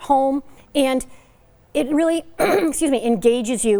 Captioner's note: coughs